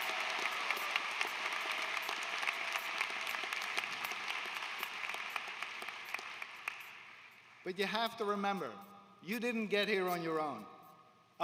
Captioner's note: applause